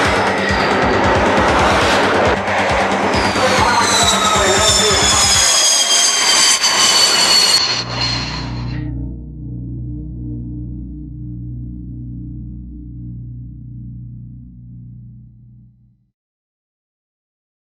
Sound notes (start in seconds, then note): 3.2 aircraft whirring; 9.4 ominous orchestral music